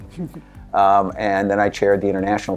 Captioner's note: laughter